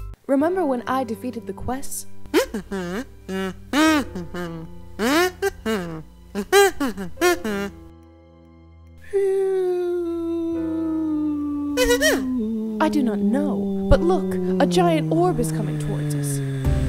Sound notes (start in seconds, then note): 8.2 ⟡ Hyper Realistic Ship Sound ⟡